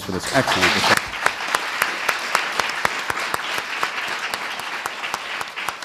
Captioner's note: applause